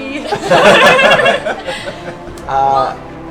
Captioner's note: laughter